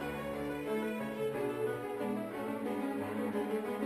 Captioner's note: none